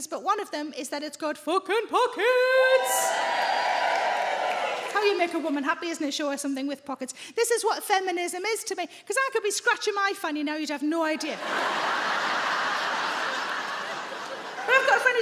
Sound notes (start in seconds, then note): 4.1 audience cheers; 11.2 audience laughs